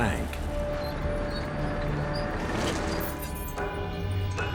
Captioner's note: tank treads squeaking